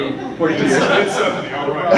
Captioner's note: laughter